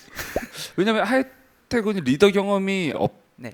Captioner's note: wavers